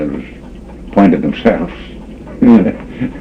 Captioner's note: laughs